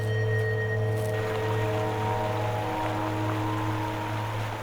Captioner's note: water flowing